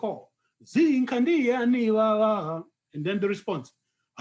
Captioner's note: non-english speech